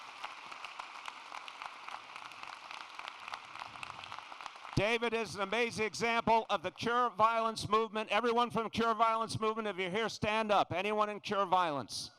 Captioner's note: xDAPPLAUSE